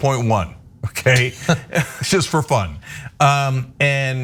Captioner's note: laugh